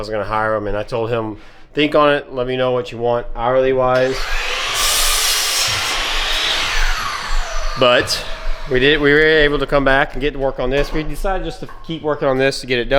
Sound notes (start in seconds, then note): 4.0 engine Revving